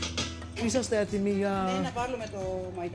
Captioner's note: speaking greek